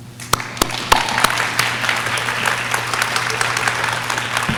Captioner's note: audience claps